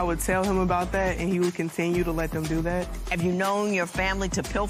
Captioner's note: none